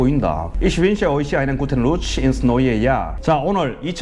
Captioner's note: German